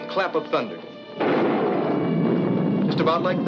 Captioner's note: lightning cracks